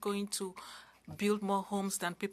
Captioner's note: speaking french